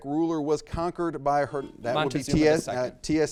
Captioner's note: buzzer beeps